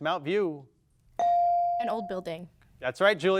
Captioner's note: bell dings